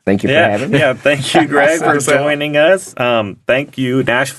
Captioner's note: laughing